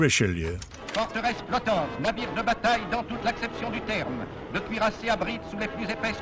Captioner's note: reporter speaking in foreign language